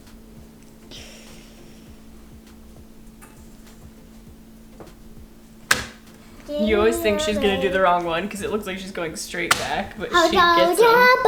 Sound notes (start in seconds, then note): 6.5 vocalizes; 11.0 singing